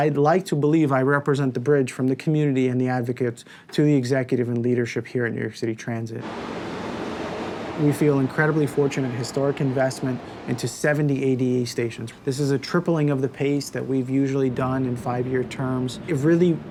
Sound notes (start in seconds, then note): 6.2 Trem acelerando